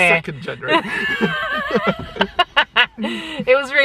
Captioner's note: laugh